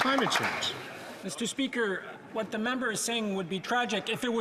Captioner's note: some Applause